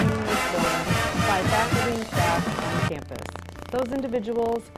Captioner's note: speaks faintly